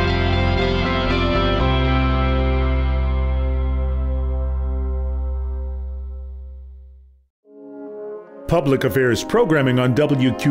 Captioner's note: mellow music; voiceover